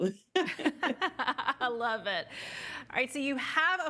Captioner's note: laughing